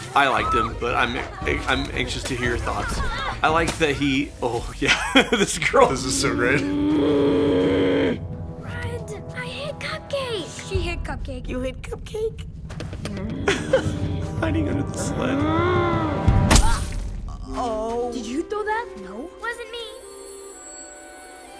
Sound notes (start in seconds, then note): 5.7 growling; 13.0 more growling